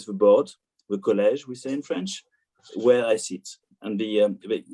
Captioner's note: speaks in French